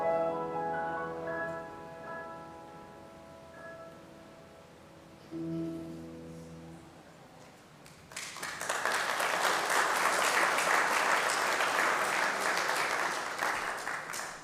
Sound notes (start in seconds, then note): 0.0 gentle piano music continues; 7.8 congregation applauding